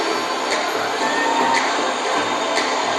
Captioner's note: cheering